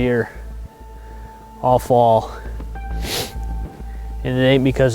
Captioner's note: sniffles